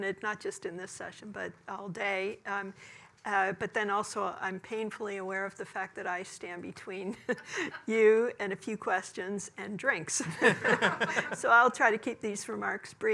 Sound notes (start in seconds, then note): 10.4 laughing